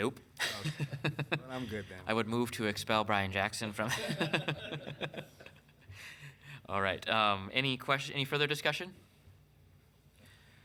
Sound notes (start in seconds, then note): 0.4 laughing; 3.8 councilmembers laughing